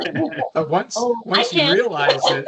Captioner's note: laughing